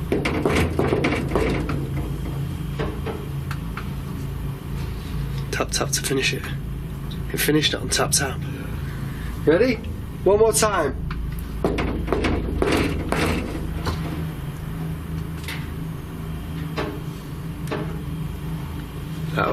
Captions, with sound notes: (loud knocking) (loud knocking) Tap tap to finish it. It finished it on tap tap. Ready? One more time. (loud knocking) (loud knocking)